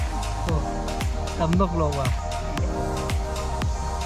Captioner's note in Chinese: 台語